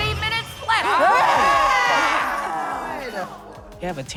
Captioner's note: everyone screaming